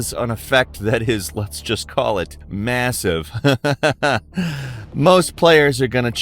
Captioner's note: laughs